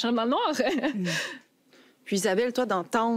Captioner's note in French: rire